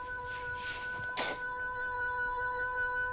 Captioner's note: sniffles, sharply blows